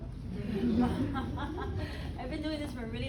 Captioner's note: audience laughing